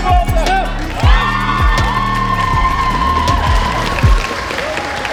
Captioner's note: bell; cheers